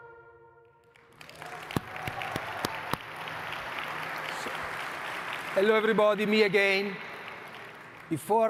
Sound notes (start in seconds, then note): 2.5 audience cheering and clapping